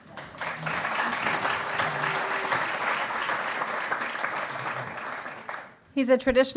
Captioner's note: applause